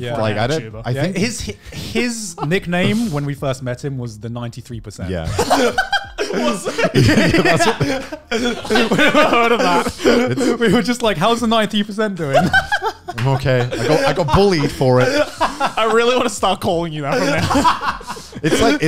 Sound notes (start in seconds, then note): 5.3 laughing loudly; 12.3 laughing loudly; 15.1 laughing; 17.0 laughing